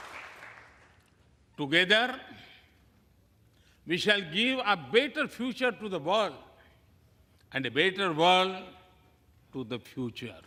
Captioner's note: applause